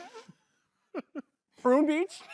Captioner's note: chortles; chuckles